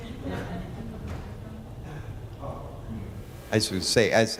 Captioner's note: laughing